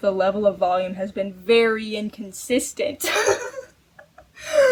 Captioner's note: laughs